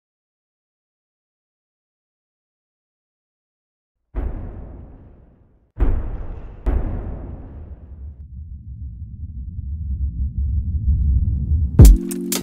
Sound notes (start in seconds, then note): 4.1 loud bangs for footsteps